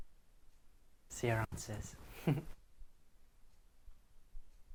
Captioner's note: chuckles